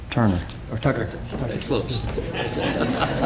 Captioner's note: chuckles